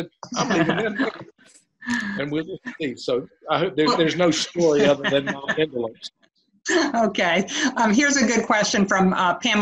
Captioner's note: laughter